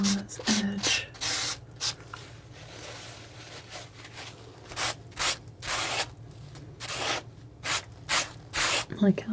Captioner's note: scratching